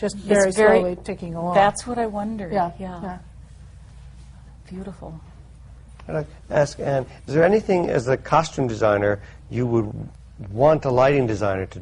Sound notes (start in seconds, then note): none